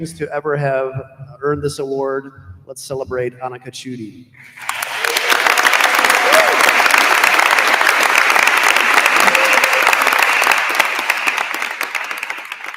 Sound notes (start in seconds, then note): 4.5 attendees applauding; 4.9 attendee cheers